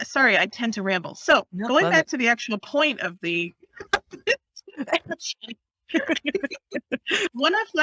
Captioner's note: laughter Laughter